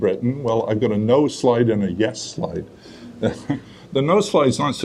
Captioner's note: chuckles